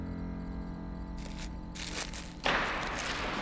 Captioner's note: clang